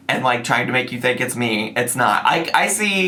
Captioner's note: none